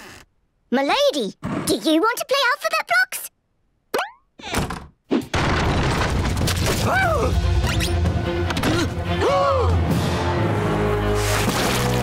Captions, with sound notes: My lady, do you want to play alphabet blocks? [banging] [shrieking] [gasping]